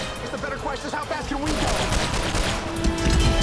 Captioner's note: gunshot